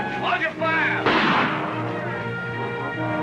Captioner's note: gunshot